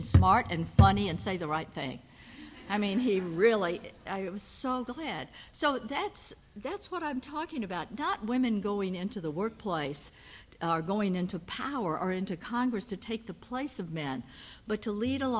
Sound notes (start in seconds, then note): 2.5 audience laughs